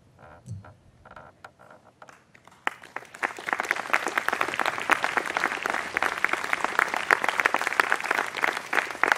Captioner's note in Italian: applausi